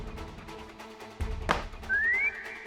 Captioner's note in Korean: 탁!